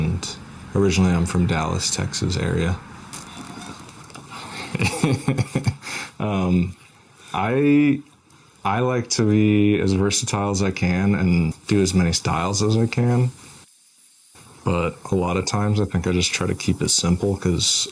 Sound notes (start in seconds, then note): 3.4 cat meows; 4.4 chuckles